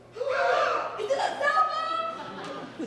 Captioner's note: performers gasp